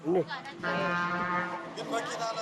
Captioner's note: bus hooting; speaking in foreign